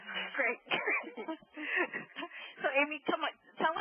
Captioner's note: laughing